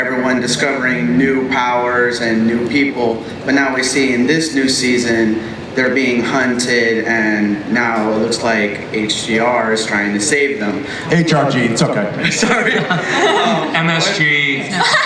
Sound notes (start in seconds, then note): 12.5 voiceover